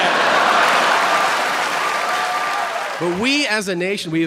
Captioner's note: audience laughing